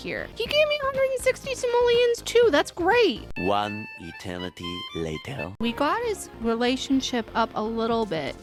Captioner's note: french accented male narrator voice